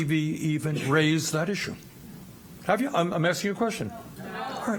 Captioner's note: laughter